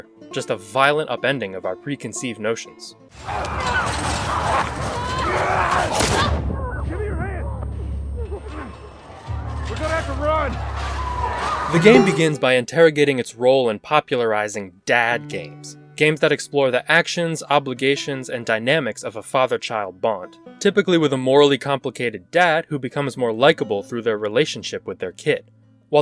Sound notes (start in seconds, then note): 3.2 Infected and Abby screaming; 5.9 gunshot